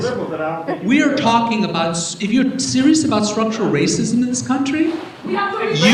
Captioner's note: audience Shouting